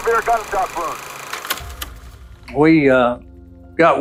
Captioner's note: project clicking off